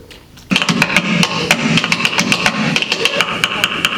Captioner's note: tapping